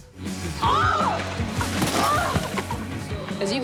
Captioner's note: yelling